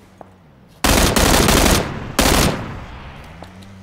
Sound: gun firing rapidly; motor rumbling

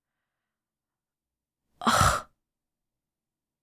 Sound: exhales

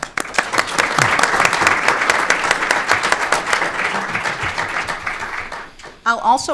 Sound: applause

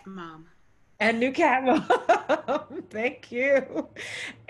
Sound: laughs

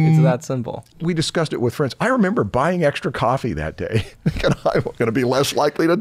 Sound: chuckles

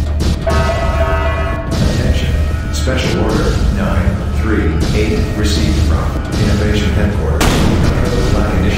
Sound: announcement Chime

